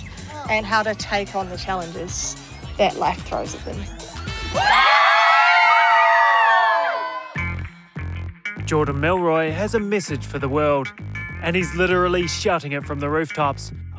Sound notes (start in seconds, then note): 4.4 children shouting and screaming